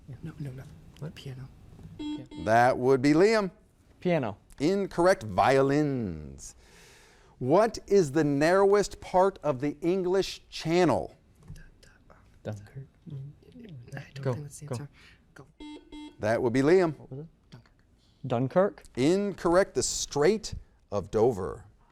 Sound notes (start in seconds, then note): 1.9 buzzer beeps; 11.9 whispers; 15.5 buzzer beeps; 17.9 whispers